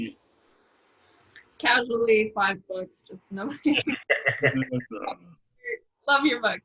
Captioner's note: both laugh